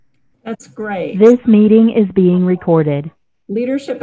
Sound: Robotic voice

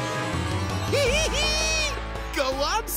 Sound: laughing

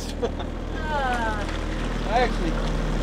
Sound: groans

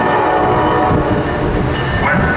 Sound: bells ringing

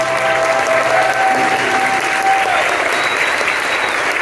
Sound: applause

